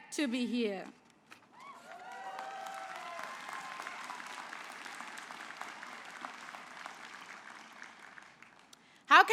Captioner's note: applause